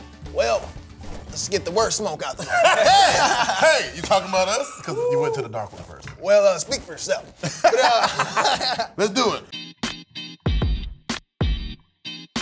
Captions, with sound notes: - Well, let's get the worst smoke out there. (laughter) - Hey, you talking about us 'cause you went to the dark one first? - Well, speak for yourself. - Let's do it. (upbeat music)